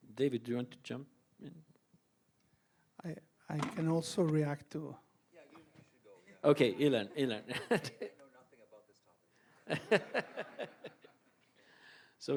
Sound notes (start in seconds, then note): 7.0 laughs; 9.6 all laughs